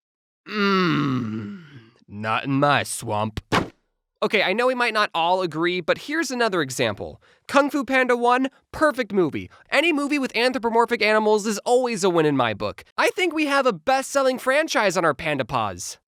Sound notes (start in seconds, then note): 2.2 Imitating Shrek's beautiful voice